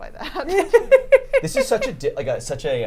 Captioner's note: laughs; everyone laughs